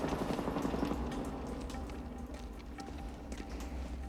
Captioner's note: water Dripping